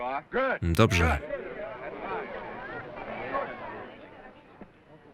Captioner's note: crowd chattering